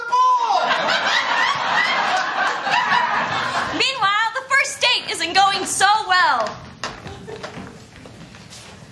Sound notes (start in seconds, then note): 0.5 laughter